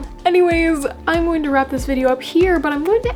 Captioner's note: none